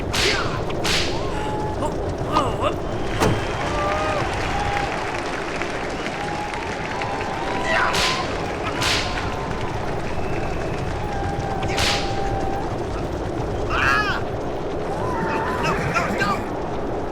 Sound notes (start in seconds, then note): 3.8 מחיאות כפיים; 13.9 צעקות